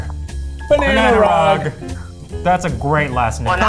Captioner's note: in Unison